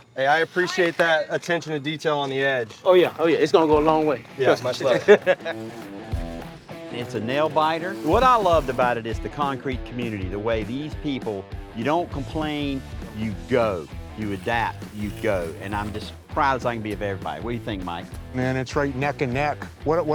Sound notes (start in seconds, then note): 4.6 laughs